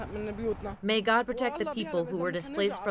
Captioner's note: through translator